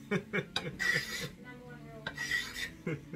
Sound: laughing; scraping

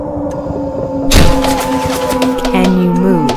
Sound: distant helicopter; distant screaming; distant siren; automatic gunfire; distant screaming; door opening; distant screaming; distant siren; automatic gunfire

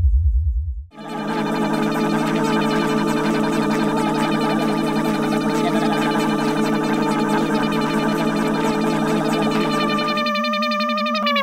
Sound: multiple motor sounds; motor slowing down

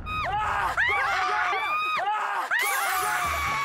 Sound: crying

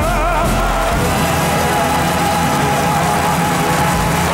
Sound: audience applauds

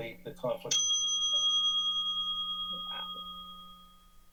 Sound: timer ringing; silence

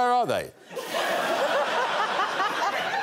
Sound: crowd laughs

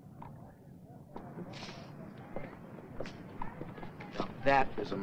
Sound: softly chattering; shoes softly clattering

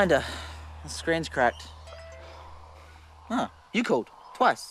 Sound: phone notification

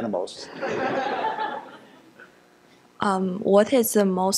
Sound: laughter

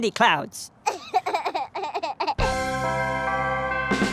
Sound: minnow giggling

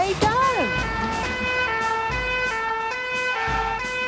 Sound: siren sounding

